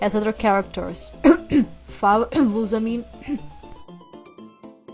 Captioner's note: cough